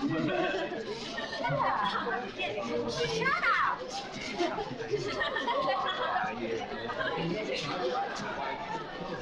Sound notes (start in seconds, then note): 4.5 crowd laughing and chattering